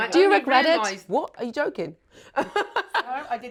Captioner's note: laughs